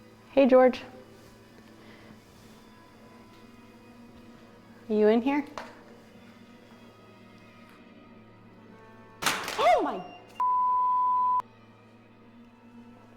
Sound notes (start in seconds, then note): 9.0 thud; 10.4 EMF beeps